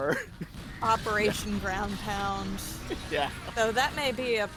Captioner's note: laughs